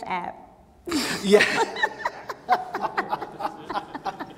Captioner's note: laughing